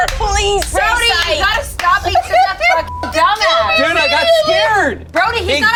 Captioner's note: beep